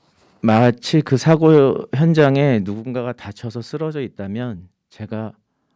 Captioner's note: speaking in Korean